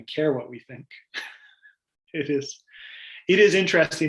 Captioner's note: laughs